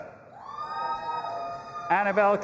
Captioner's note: audience applauding and cheering